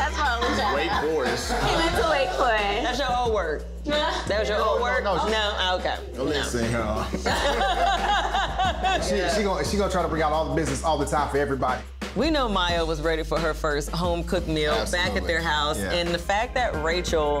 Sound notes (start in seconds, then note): 0.5 indistinct chatter; 7.0 laughs